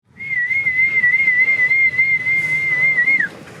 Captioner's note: whistling